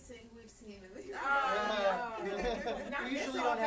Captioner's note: laughter